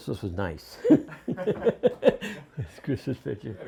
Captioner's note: laughter